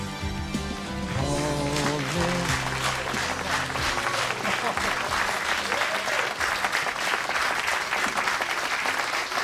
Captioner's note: applause